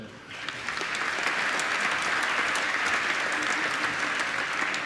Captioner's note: applause